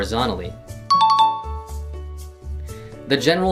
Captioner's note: dinging